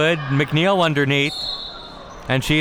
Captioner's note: whistle being blown